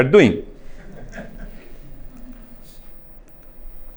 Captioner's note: laughing